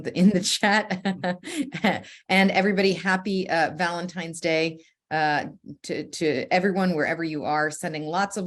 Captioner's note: chuckles